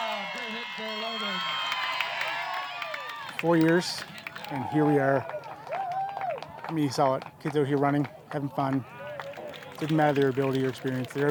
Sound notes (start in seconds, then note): 0.0 cheers